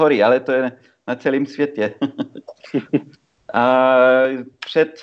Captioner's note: laugh